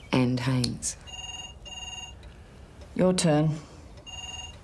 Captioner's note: phone rings